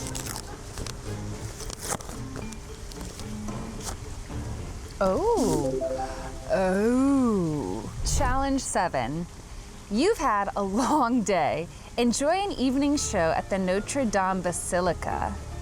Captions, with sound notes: (playful music) Oh! (upbeat tone chimes) Oh. Challenge Seven. "You've had a long day. Enjoy an evening show at the Notre-Dame Basilica.